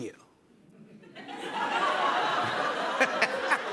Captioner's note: laughter